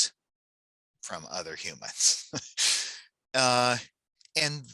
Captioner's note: laughs